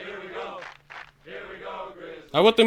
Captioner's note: clap clap